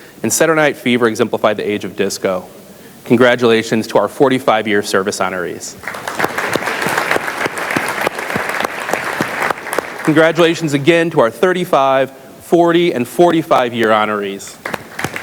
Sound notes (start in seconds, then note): 5.8 audience applauds; 14.6 audience applauds